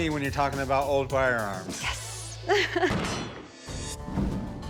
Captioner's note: laughs